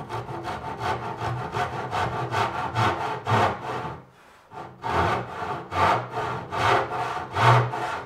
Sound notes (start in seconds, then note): 2.2 sawing wood